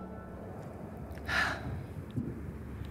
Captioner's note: sighs